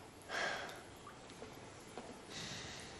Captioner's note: sighs